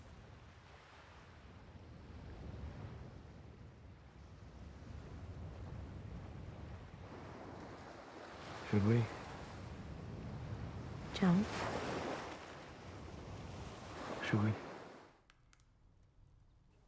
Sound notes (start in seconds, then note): 13.1 waves crashing